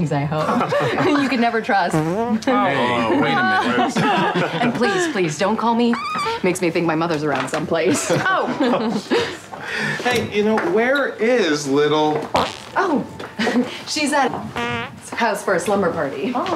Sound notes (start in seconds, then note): 1.8 farts; 5.9 farts; 12.2 farts; 14.4 farts